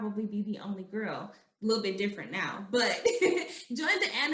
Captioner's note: laughing